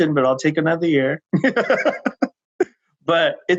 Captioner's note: laughing